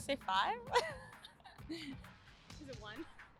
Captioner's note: chuckle